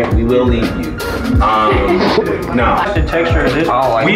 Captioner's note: chuckles